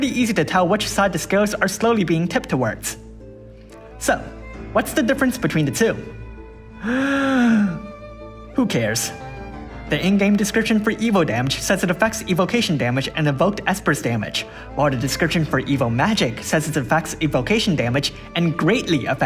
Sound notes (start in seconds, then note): 6.7 inhales